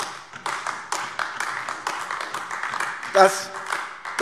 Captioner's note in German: Beifall AfD